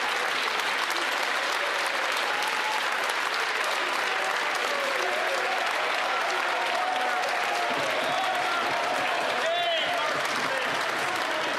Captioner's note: some Applause